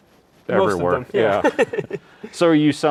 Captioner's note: laughing